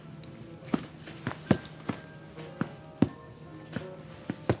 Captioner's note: drumming on chair